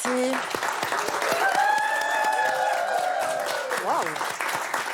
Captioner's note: cheers